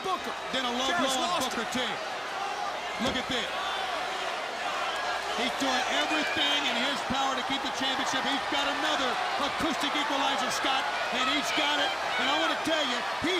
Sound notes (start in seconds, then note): 3.6 crowd chattering